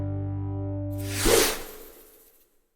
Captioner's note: logo whooshing